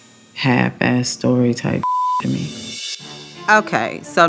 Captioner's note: beep